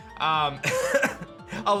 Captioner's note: laughs